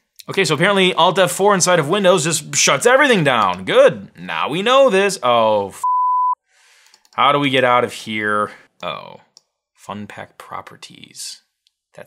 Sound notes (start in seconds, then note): 5.8 beep